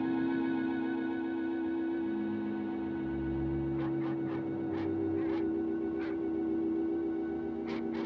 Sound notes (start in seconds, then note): 3.7 barking in distance